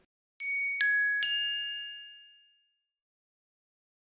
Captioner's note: chime rings